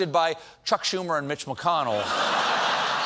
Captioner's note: laughter